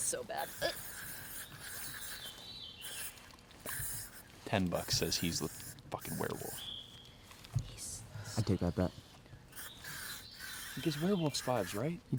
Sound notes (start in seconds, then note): 1.0 canto de pájaros; 2.1 silbido de lata